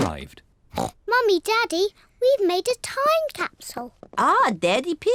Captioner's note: oinks